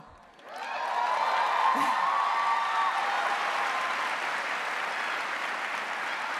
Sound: audience cheering and applauding

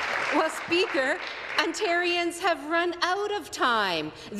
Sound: applause

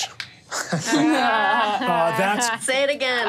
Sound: players laughing

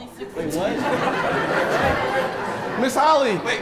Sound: attendees laughing

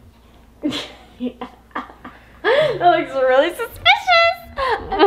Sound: laughs

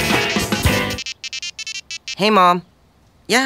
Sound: cell phone ringing

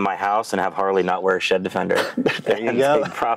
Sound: laughing

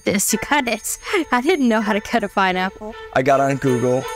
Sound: laughs

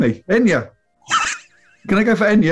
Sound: sniggering

